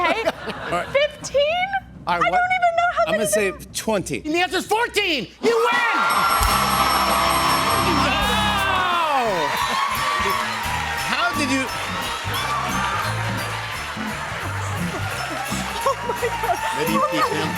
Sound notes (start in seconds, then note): 6.1 cheers and applause; 6.2 dinging